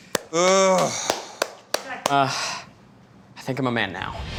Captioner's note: clapping